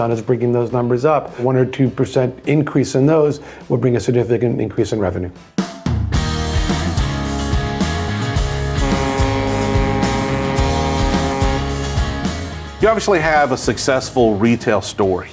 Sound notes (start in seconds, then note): 5.4 upbeat music; 8.3 ship horn blaring